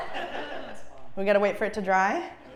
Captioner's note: laugh